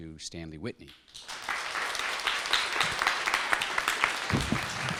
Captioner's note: applause